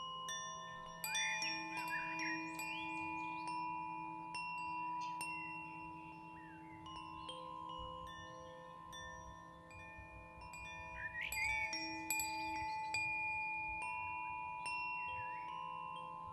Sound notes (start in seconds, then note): 0.8 chimes tinkling; 1.1 birds chirping